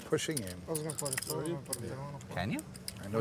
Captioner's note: chattering